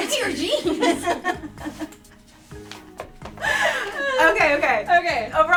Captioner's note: everyone laughing